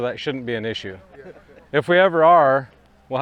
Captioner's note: men laughing